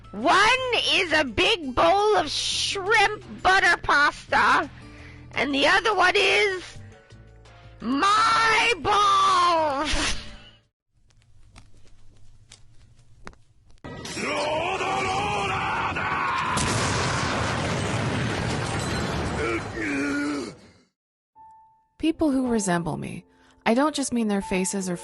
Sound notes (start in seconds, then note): 9.3 laughs; 14.1 DIO screams; 16.0 machine booms; 16.6 Jotaro groans